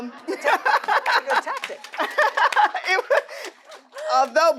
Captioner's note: audience applauding